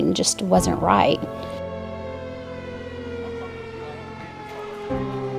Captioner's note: sirens blaring